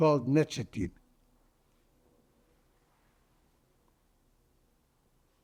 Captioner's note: pauses 8 seconds